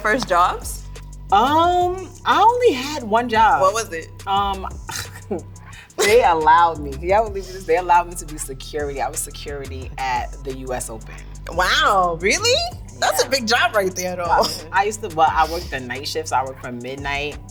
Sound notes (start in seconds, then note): 10.7 laughs